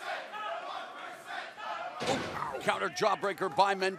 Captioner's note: crowd cheering